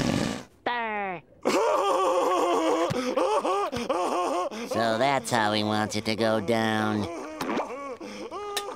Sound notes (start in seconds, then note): 1.4 laughing